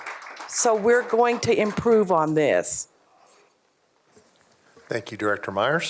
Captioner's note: applause